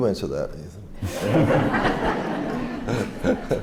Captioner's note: laughter